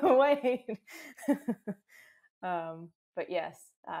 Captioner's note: laughs